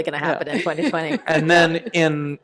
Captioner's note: laughter